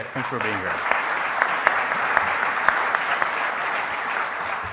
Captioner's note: audience applauding